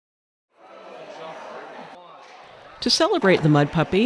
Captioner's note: crowd noise